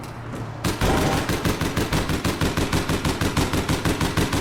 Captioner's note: gunshots booming